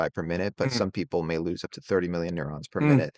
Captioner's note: hums